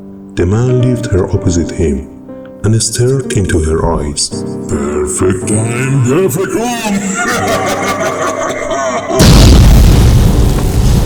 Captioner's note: explosion